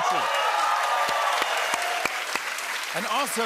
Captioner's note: cheers and applause